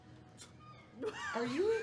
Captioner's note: seagull call; laughter